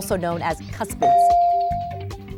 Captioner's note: bell dings